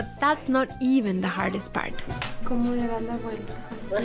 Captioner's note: both speaking Spanish